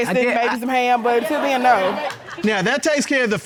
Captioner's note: indistinct chatter